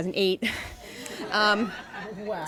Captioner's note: laughter